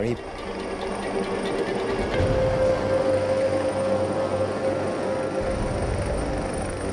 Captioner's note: helicopter rumbling; tense music